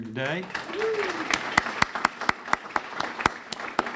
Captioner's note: clapping